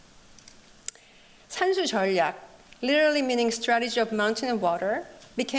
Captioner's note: speaking korean